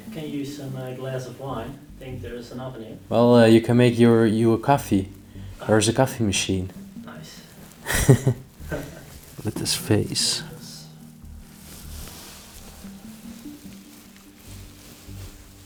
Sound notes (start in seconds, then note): 7.8 chuckling